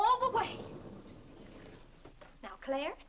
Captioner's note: doors sliding open